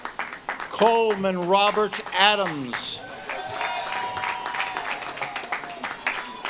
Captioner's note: audience claps and cheers